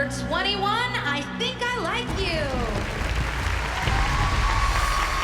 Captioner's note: cheering